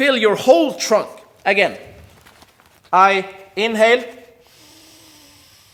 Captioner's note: air hisses